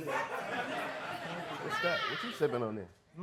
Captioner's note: audience laughing